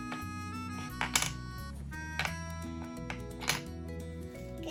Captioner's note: blocks clicking